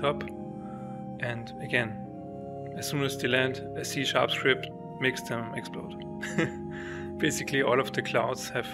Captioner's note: laughs